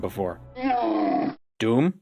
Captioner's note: camel groan